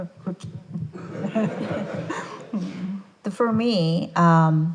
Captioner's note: attendees laughing